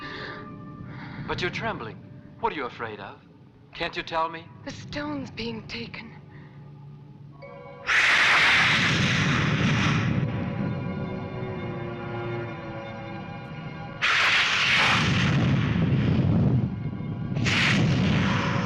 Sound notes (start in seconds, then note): 6.9 suspenseful orchestral music; 8.2 thunder crashing